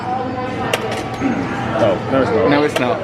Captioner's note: button clicking